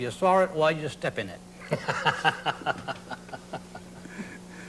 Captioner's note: men laugh